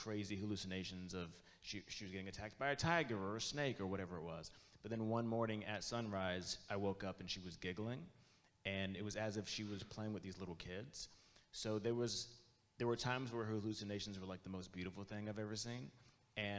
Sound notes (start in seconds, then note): none